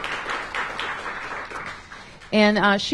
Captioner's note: applause